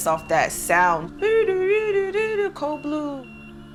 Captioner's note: mimicking siren